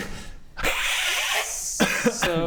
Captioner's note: hissssssssssss